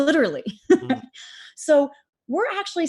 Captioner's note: laughs